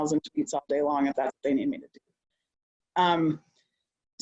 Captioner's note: audio distorted